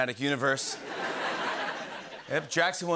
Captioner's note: laughter